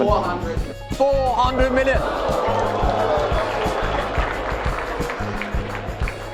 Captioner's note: crowd erupts with gasps and applause